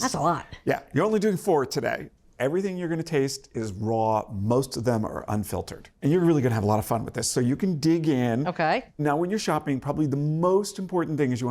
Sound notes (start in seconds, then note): none